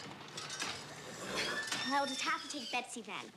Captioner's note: horse whinnies